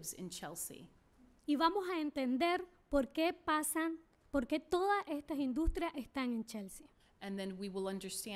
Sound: speaking spanish

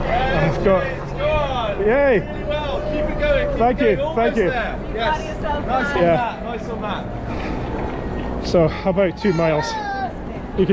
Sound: more cheering

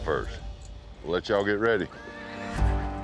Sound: horse neighs

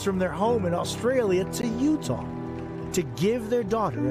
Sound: cheers; cheers

